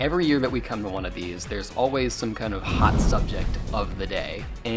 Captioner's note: flame whooshes